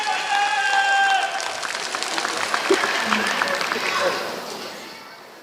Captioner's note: applause